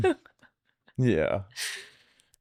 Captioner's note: laughing